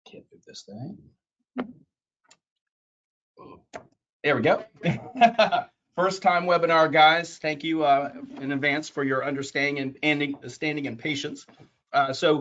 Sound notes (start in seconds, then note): 4.6 laughs